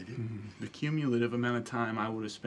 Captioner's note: chuckles